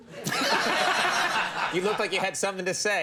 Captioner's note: crown laughs